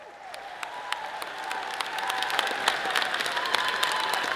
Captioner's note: all applauding